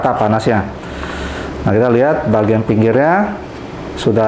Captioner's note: inhale